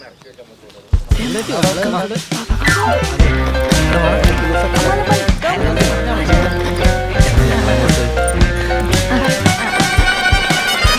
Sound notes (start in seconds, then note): 1.1 indistinct chatter